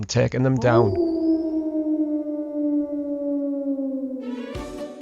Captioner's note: warewold Howling